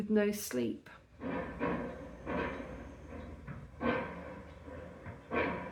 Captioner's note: loud metallic banging